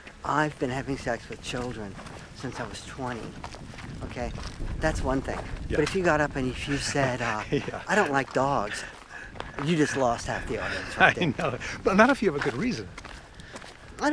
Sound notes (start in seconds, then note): 6.8 laughs; 10.5 laughs